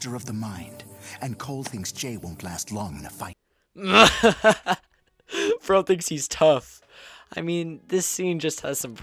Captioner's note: laughes